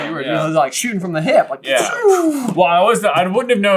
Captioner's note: laser beam noises